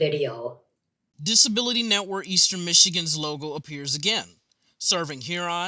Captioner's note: voiceover